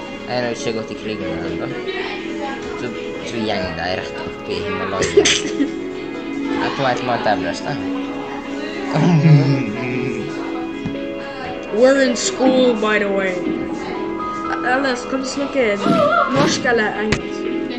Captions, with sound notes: Ej he jo ikkje gått I krig enda So gjeng dei rett oppi Himalayas- (Laughter) Dei e på vei til mt.Everest We're in school btw eh, skal vi snakke norsk eller engelsk?